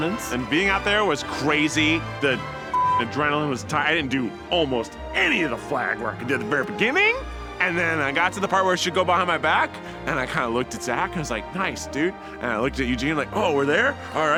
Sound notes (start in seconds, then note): 2.7 beep